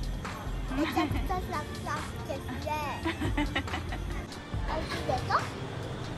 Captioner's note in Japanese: 笑い